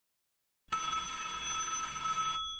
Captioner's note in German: Telefon klingelt